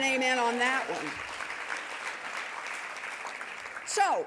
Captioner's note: audience applauding